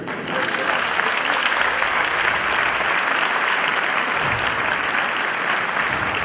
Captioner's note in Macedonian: аплауз